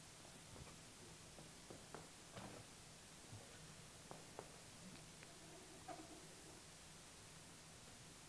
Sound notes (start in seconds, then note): 4.3 hand lightly scraping on block